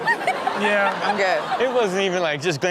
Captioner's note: all laugh